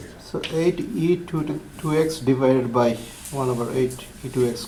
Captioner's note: voiceover